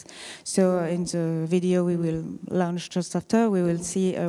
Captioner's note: french